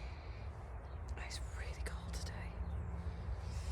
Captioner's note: quietly